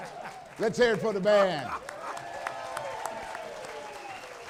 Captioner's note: applause